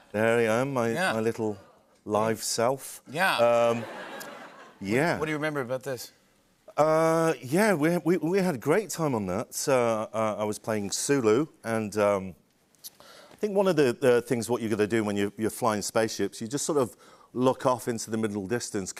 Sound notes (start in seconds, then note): 3.6 laughter